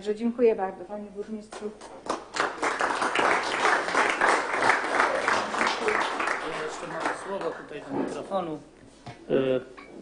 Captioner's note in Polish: oklaski